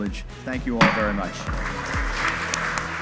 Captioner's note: gavel smacks; attendees applaud; uplifting music continues